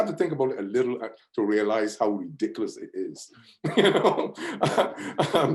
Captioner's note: laughs